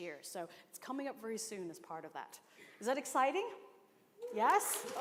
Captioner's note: cheers and applause